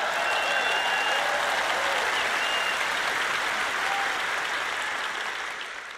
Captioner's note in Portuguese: plateia aplaudindo